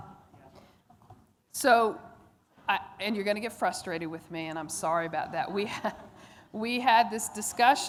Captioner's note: laughter